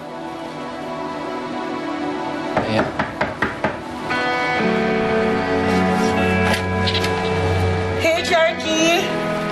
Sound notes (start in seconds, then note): 2.5 knocking on door